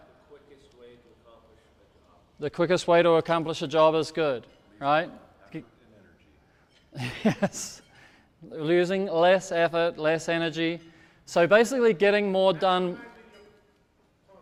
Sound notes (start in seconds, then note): 5.7 speaks off microphone; 6.9 laughs